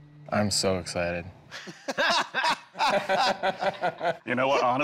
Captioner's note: all laughing